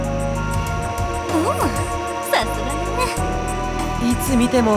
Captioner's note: impressed hum